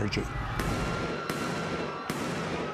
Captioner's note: people screaming; guns firing